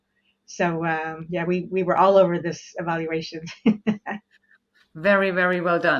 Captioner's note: laughs